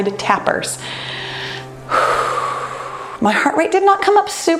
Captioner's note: sighing